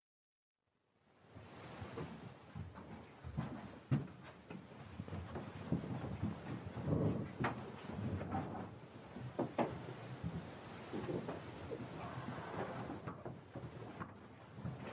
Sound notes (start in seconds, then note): 2.6 footsteps